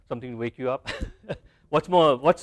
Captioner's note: laugh